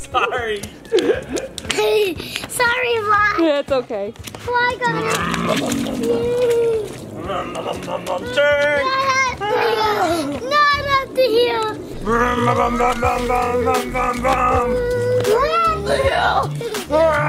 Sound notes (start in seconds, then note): 0.8 laughs; 5.1 vrooms; 12.0 vrooms